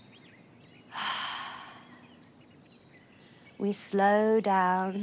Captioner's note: exhales